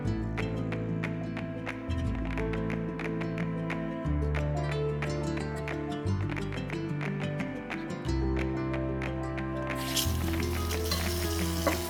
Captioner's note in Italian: Applauso